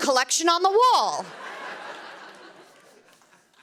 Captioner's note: laughter